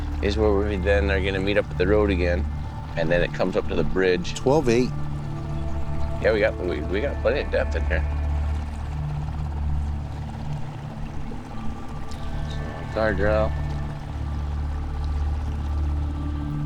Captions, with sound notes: is where we then are gonna meet up at the road again and then it comes up to the bridge. - 12, 8. - Yeah, we got plenty of depth in here. (water sloshing gently)